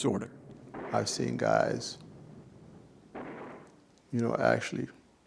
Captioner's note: guns firing faintly